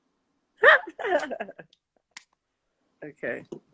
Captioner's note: laughs